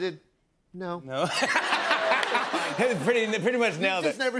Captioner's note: laughter